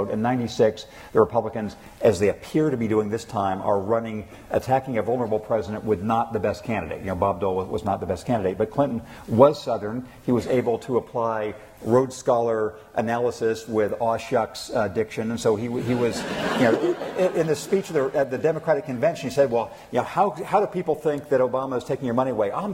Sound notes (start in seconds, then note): 15.7 laughter